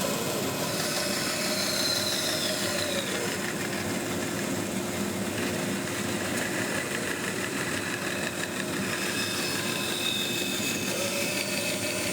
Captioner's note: saw blade whirs; saw blade continues whirring